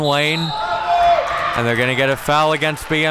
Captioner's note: whistle blows